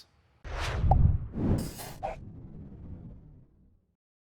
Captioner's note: air whooshing